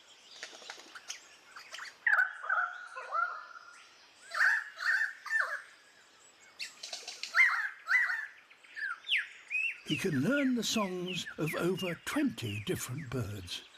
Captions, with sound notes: (CHIRPS) (IMITATES CHIRPING) He can learn the songs of over 20 different birds.